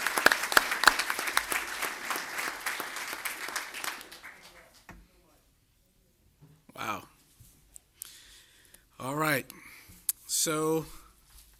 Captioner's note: applause